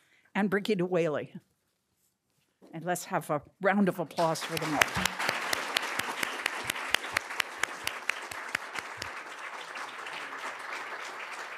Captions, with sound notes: and Birgitta Whaley. And let's have a round of applause for the moment. (attendees applauding)